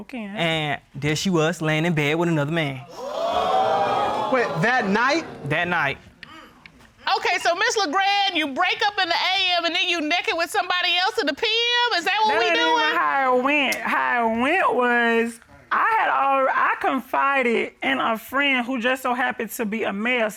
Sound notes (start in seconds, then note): 2.9 audience exclaiming